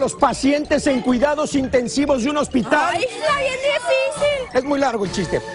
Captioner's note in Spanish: risas